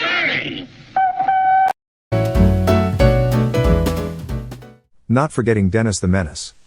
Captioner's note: toot toot!